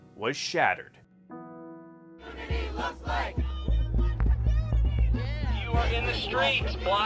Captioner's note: protest chanting